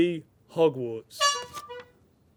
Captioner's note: honking